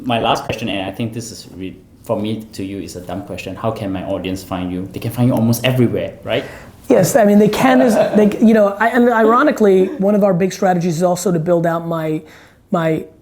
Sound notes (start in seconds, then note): 7.6 interviewer laughs